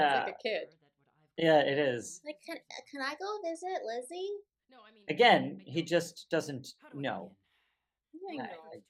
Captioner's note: nasally child voice